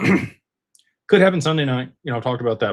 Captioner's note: clears throat